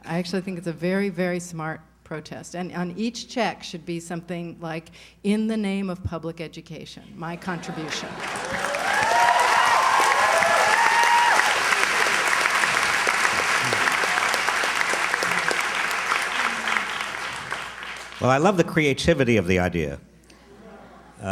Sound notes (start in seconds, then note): 8.2 cheers, applause